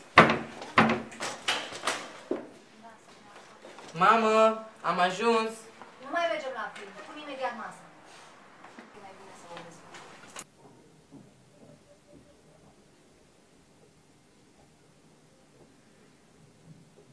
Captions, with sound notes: -Mom. I am home... -We are not going to the cinema anymore! I will set the table in a moment. (silent)I think its better if I speak to him